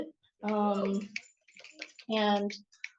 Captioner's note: clapping